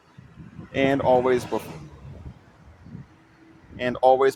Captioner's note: car drives past